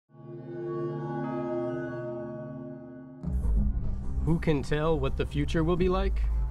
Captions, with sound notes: [chime] Who can tell what the future will be like?